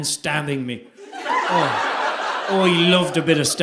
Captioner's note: audience laughing